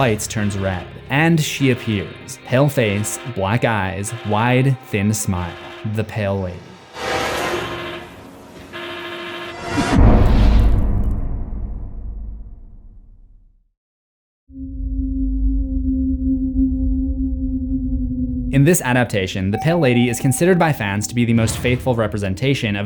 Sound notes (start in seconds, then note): 6.4 siren; 9.6 impact; 14.5 eerie music